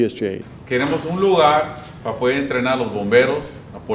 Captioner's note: in Spanish